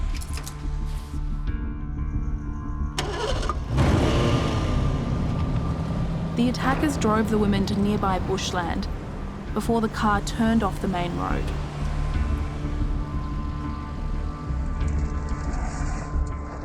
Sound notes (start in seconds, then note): 0.3 suspenseful music; 2.9 car engine roars; 12.0 suspenseful music